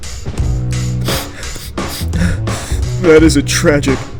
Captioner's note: sniffling